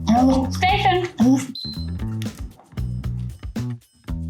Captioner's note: whistle